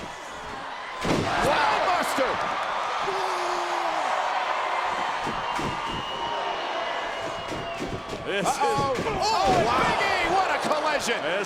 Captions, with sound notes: Wow! Spinebuster! (crowd cheers) (Ryback yells) This is. Uh oh. Oh and Big E! What a collision.